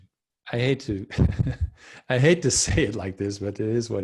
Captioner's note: laughs